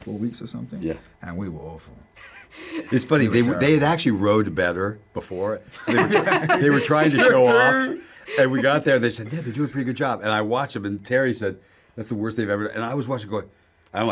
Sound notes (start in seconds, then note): 2.2 chuckles; 5.7 laughter